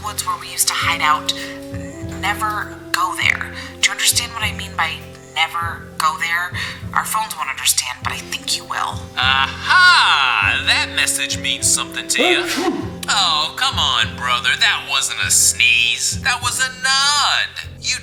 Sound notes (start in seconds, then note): 12.1 Manny sneezes